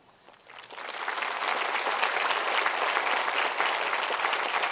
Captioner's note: audience applauding